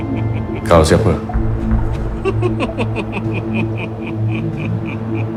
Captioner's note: speaking in foreign language